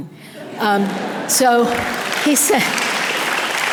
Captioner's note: audience applause